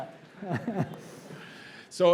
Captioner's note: laugh